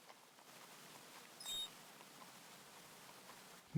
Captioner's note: squeak